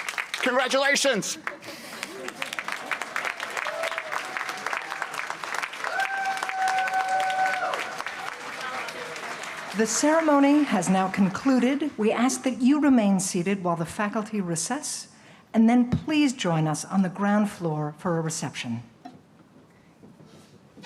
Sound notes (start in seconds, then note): 1.4 laughter; 2.4 applause and cheering